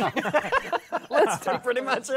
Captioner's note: laughter